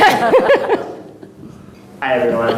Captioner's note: audience laughing